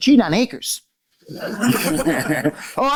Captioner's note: laughter